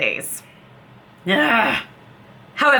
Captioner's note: growl